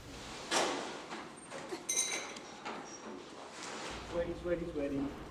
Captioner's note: objects rattling